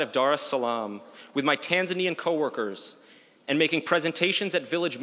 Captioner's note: none